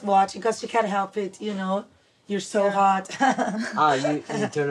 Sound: laughing

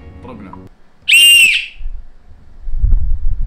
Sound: whistles

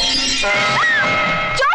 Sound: scream

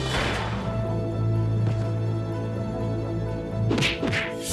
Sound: rifle fires; punch thuds

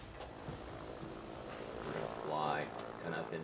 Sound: clanking, engines

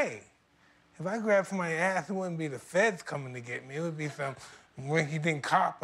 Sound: laughter

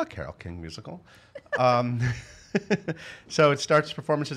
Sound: laughing

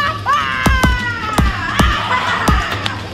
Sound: shouting

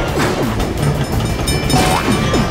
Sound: dinging

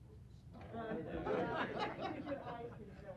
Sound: laughter; chatter

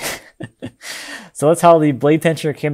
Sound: laughing

